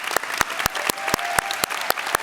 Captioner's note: applause